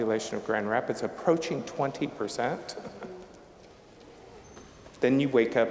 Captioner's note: chuckling